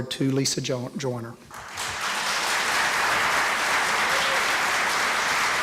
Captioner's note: applause